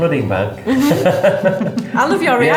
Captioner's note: laughing